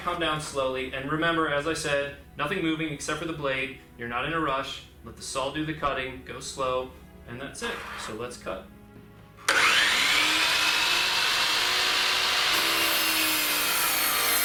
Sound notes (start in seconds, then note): 9.4 saw cutting